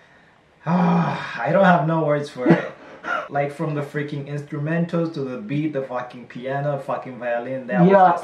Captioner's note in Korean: 하아아아